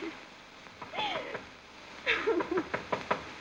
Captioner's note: crying; knocking